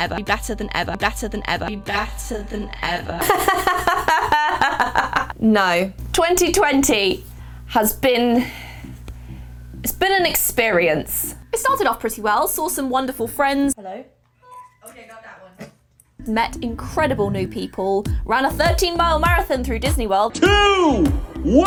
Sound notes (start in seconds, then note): 3.2 laughs